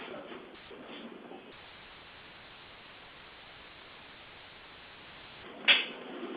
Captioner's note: silence